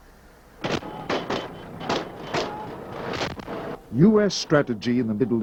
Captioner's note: gun fire exploding